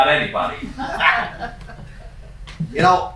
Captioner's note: laughing